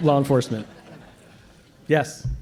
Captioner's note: laughter